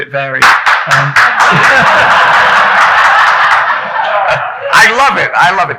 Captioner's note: clapping loudly; audience laughing